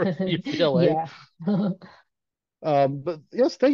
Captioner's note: laughing